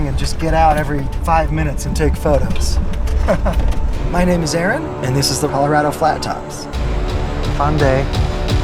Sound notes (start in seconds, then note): 3.0 laugh